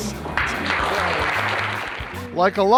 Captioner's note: applause